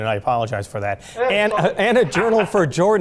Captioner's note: laughing